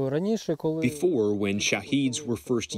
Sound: through translator

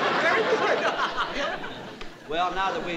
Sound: laughs

